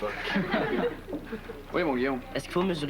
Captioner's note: Rires